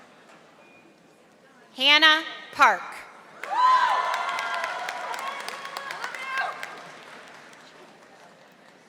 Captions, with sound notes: Hannah Park. (audience applauding)